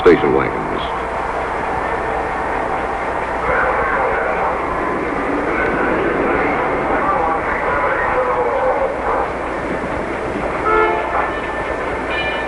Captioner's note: background activity, horns, and sounds